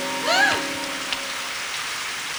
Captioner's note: gasps